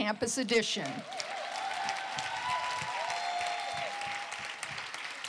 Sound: cheering

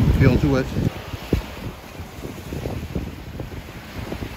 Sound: waves rushing

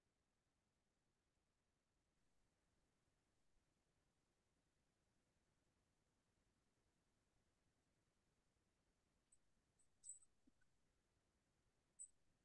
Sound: silence

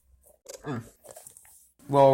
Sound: Chet Grunting

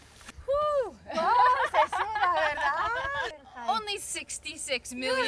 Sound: laughs; speaks in Spanish

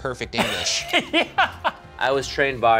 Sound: laughs

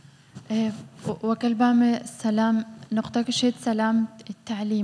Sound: speaking foreign language

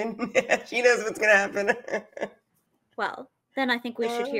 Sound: laughs

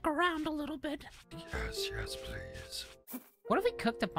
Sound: quiet Scary Voice

